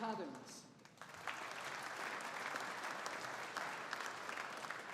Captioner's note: audience applauding